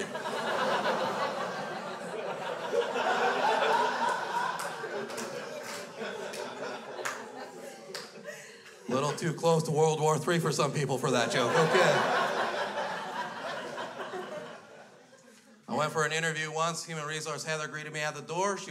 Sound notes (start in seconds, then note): 0.1 crowd laughs; 7.1 crowd continues to laugh; 10.8 crowd laughs